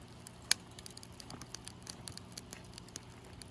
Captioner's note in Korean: 타닥타닥 듣기 좋은 숯 타는 소리👂